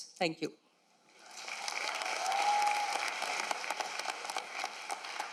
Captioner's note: applause and cheering